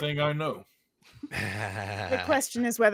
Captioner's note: group laughs